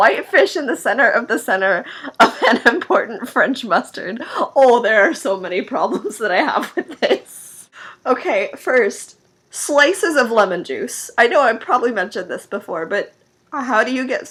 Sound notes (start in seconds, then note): 5.8 laughing